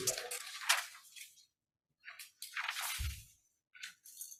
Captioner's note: paper rustling